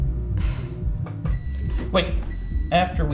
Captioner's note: microwave beeps